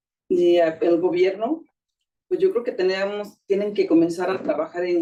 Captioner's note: speaking Spanish